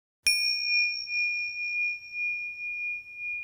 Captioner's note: bell chimes